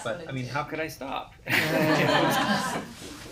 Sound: laughter

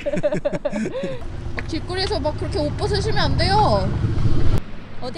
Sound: laugh

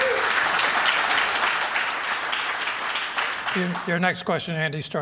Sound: applause

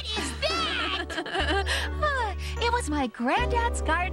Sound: laughing

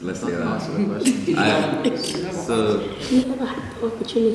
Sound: laughing

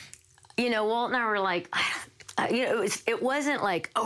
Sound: sighs

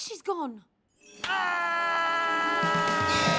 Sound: shouts; theme music plays

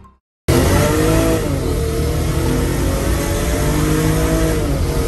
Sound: car engine roars

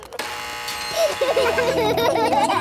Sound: gates buzzing; kids laughing

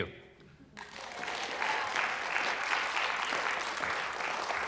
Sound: applause

